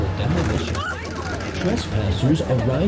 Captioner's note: object scraping